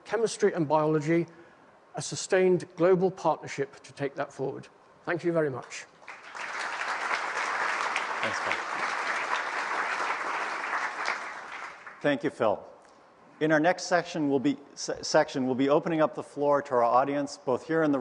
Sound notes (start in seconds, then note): 6.0 applause